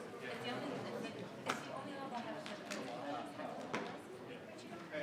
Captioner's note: group quietly conversing